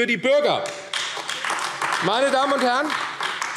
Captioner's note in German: Beifall AfD